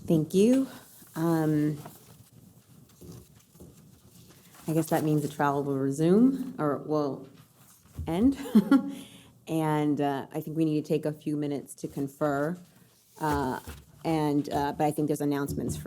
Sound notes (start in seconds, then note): 8.4 laughs